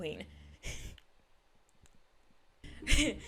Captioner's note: chuckle